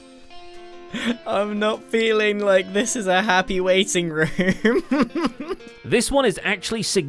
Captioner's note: nervous laugh